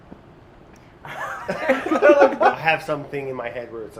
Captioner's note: laughs